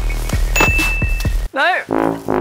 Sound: bell dings

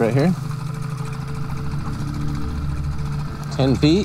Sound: engine putters

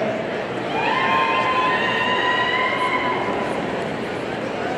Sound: audience cheering

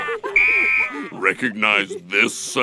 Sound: whistle blows

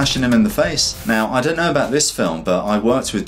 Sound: air whooshes

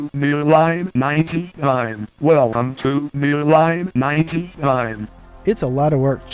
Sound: computer voice

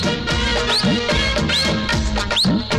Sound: whistling

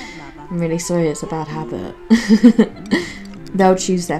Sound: giggles

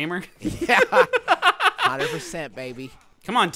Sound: laughing

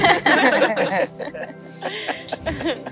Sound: everyone laughs

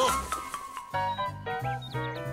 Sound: laughing; birds chirping

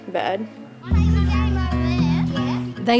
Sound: chatter

